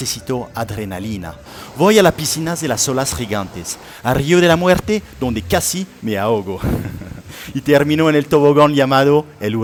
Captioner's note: laughter